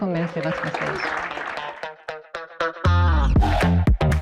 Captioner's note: applause